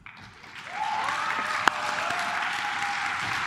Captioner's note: claps